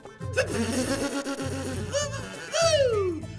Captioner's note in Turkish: Tükürüyor